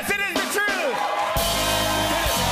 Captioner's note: cheers and applause